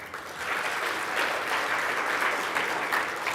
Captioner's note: clapping